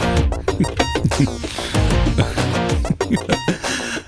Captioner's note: laughs